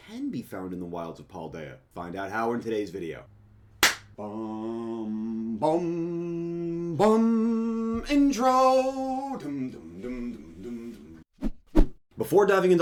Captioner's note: clap